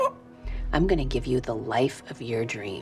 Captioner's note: Dr. Hill whimpers